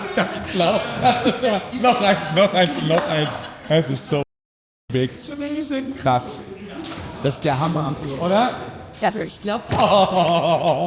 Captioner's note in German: gelächter